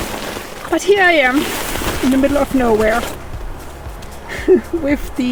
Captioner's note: laughs